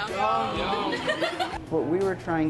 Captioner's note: laughs